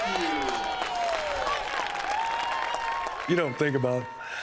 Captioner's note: clapping and cheering